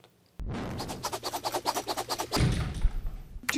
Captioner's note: scratching